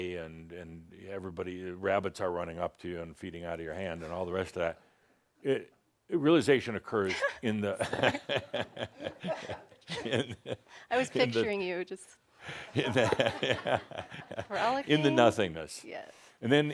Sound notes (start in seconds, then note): 7.0 they chuckles; 7.8 she chuckles; 11.9 chuckles